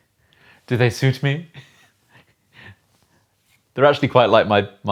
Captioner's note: laughs